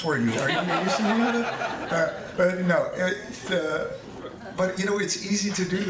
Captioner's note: audience laughing